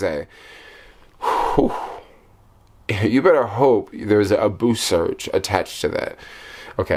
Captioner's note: exhaling